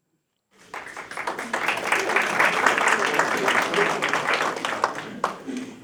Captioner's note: applause